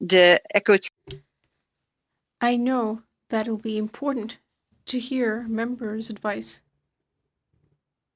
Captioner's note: speaking French